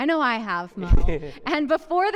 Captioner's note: chuckling